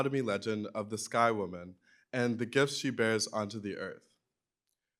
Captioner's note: none